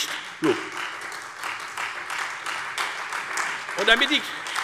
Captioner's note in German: Beifall Freie Demokraten, vereinzelt AfD und SPD